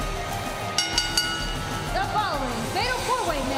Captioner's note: bell ringing